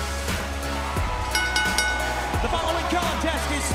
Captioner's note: bell ringing